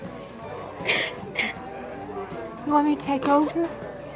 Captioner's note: Marie crying